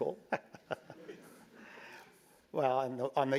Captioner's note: laugh